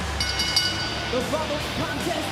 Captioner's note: bell rings